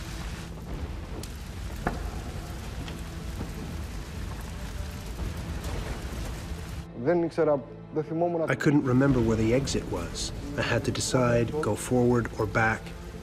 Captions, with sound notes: (fire crackling) (speaks in foreign language) - I couldn't remember where the exit was. I had to decide, go forward or back.